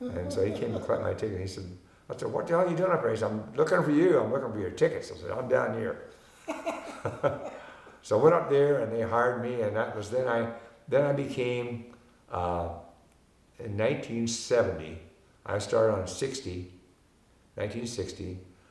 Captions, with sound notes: And so he came to collect my ticket. And I said, "What the hell you doing up there?" He said, "I'm looking for you, "I'm looking for your tickets." I said, "I'm down here." (both laughing) So I went up there and they hired me. And that was, then I became, in 1970, I started in '60, 1960.